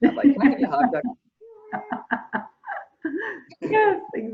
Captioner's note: laughs